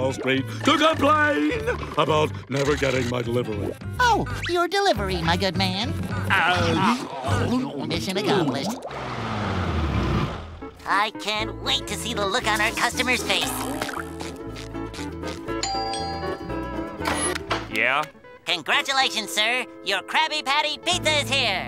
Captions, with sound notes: to complain about never getting my delivery. Oh, your delivery, my good man. Mission accomplished. I can't wait to see the look on our customers face. [doorbell ringing] Yeah? Congratulations, sir, your Krabby Patty Pizza is here.